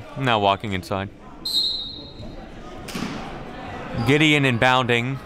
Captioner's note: referee blows whistle